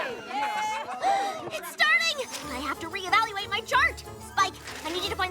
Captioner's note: gasp